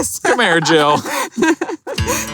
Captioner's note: laughs